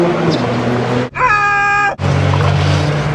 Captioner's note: screams in Australian